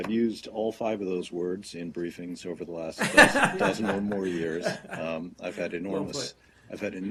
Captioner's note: laughter